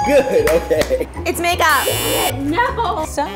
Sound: buzzer buzzes

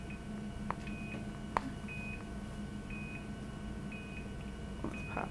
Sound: popping

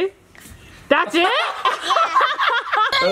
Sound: laughing loudly

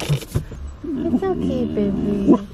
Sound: growl

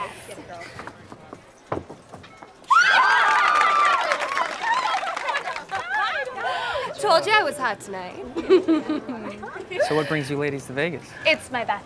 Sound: screams

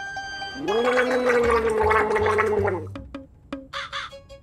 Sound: gargling

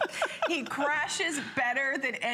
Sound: laughter

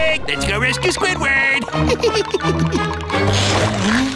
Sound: giggling

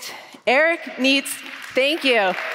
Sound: applause

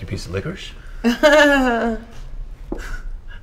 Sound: very awkward laugh

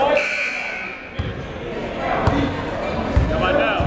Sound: buzzer dings

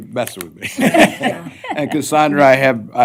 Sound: laughter

